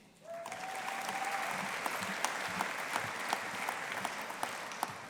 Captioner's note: audience applauding